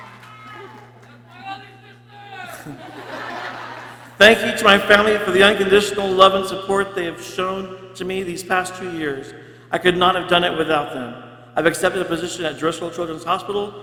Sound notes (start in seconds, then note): 2.2 people laughing